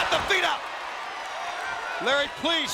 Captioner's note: audience cheering